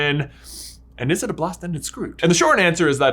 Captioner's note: sniffs